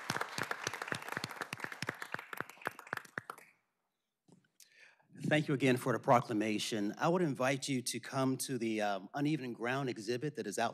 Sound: applause

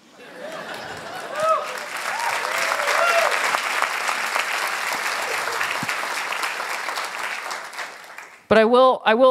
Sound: applause

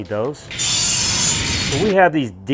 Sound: metal blades shearing

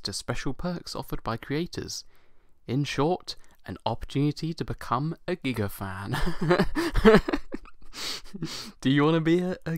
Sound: laughs

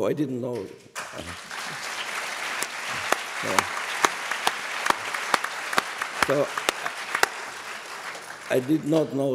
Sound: applause

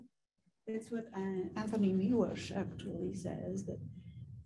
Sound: woman's Voice

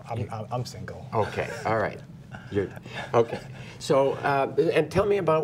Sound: chuckling

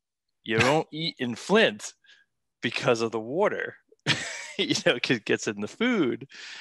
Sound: laughs

